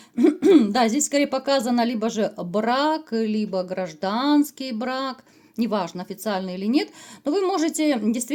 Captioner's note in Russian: откашливается